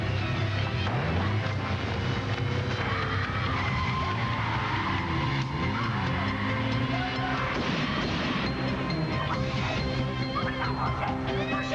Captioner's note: tires squeal; tea screams; tires squeal